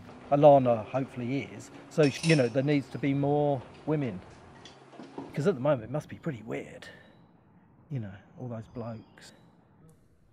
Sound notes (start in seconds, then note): none